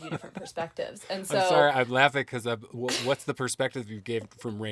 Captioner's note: chuckling